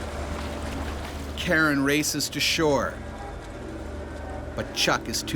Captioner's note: voiceover